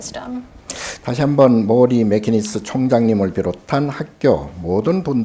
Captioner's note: speaking Korean